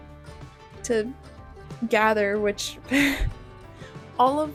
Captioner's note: laughter